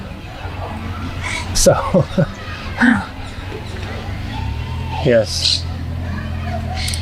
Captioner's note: laughing